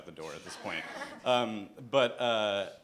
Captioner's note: laughter